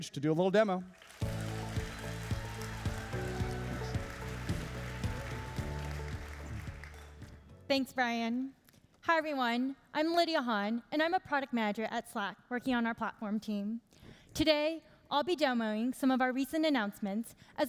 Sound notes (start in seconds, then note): 0.9 applauding and cheering; 1.2 upbeat music